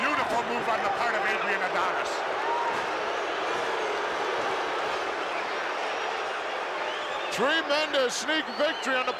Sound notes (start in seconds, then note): 2.3 crowd boos